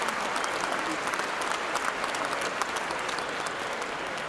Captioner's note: cheers and applause